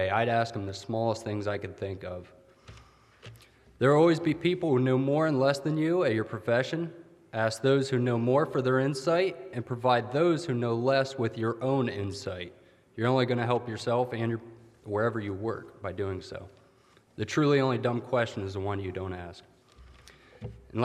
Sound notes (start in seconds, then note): none